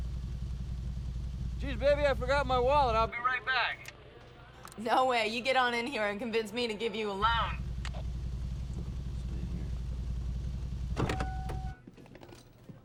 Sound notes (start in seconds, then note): 9.8 truck beeps